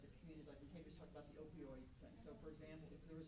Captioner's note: stammers